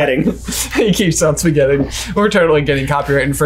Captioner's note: laughs